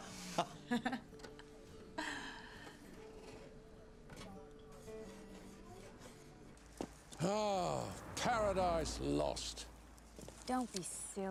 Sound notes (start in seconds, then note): 0.2 Rob laughs; 0.6 Kate laughs; 3.6 gentle music; 3.6 patrons chattering